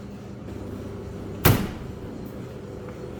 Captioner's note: dryer